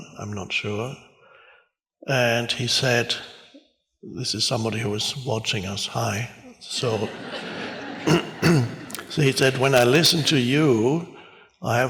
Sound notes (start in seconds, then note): 6.5 audience laughs; 8.0 clears throat